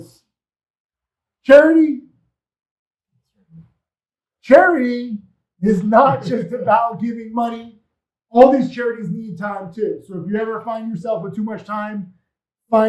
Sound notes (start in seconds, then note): 3.6 speaks faintly